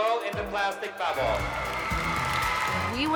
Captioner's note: cheering